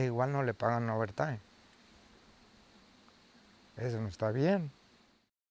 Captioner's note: speaking foreign language